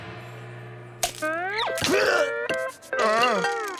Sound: grunting

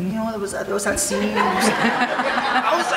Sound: audience laughing

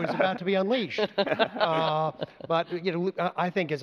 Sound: laughter

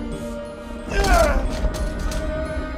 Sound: screams

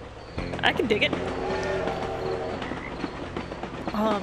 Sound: train noises

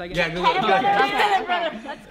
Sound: indistinct chatter

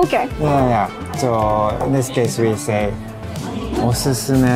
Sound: speaking in Japanese

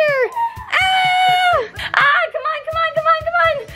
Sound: yelling

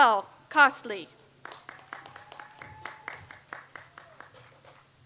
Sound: audience applauds

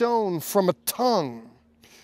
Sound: speaking Hebrew

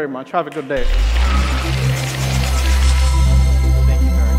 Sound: applause

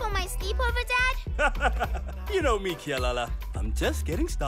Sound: chuckles

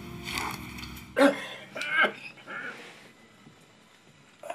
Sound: coughing

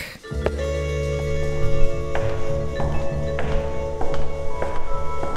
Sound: footsteps tapping

